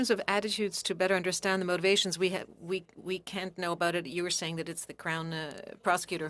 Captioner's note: speaking French